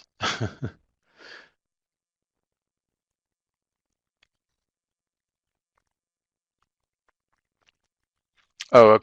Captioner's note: no sound - waiting for questions in the chat